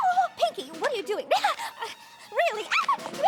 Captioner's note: gasping